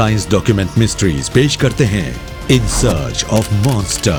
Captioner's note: low growling